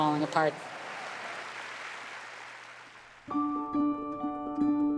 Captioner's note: applause; orchestra playing